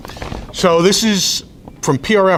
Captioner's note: rustles papers